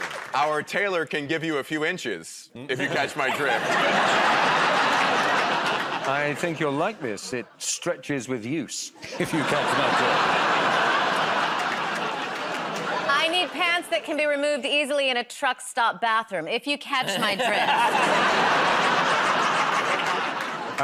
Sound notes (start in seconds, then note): 2.7 laughter; 9.0 laughter; 17.0 laughter